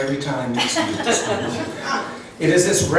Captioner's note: laughs